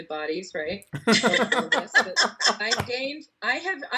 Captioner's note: laughing